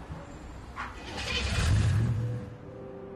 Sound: engine revs; mellow music plays

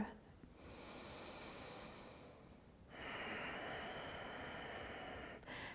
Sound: breathing

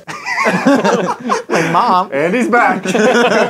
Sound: laughter

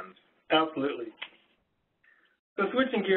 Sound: voiceover

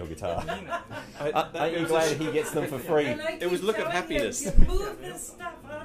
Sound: laughs

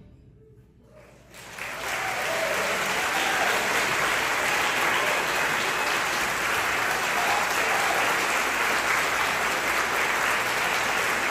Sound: applause

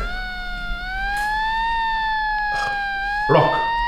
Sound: siren

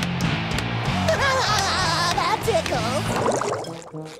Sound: laughing

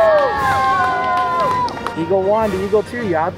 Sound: cheering

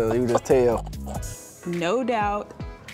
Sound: laughs

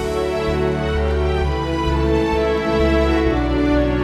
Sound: crowd cheering

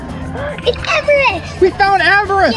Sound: gasps

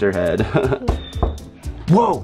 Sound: knocking

